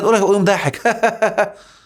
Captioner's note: laughs!